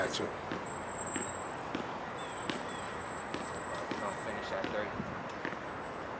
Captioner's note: basket ball tapping